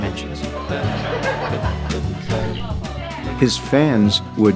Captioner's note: people laughing